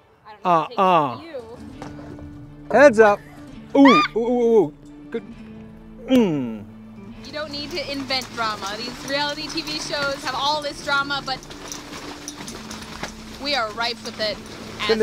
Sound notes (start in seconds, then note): 3.8 scream